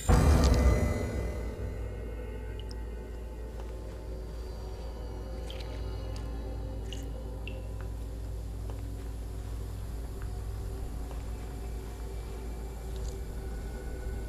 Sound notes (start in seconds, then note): 0.1 dramatic music; 6.9 water dripping